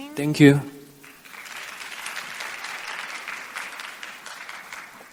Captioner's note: applause